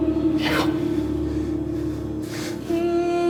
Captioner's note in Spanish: Hablan y gritan al unísono